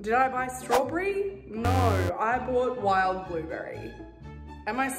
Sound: buzzing

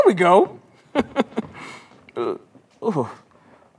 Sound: chuckles

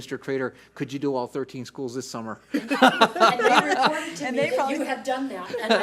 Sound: laughs

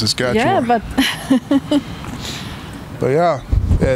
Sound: laughing

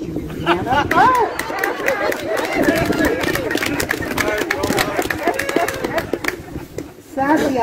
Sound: laughter and applause

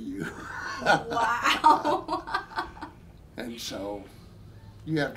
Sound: both laughing

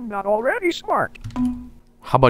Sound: Windows ding sound

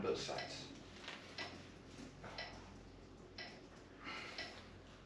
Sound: metronome ticking

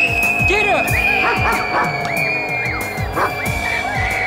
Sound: screaming; wolf howls continue; Bob barks; screaming; wolf howls continue; Bob barks

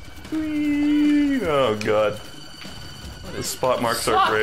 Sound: none

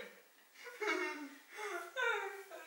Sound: sighs

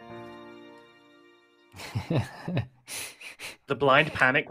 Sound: laughter

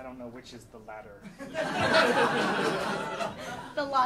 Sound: audience laughing

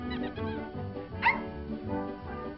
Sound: bark

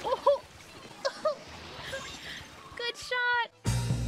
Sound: laughing

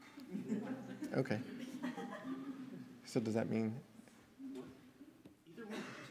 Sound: laughter

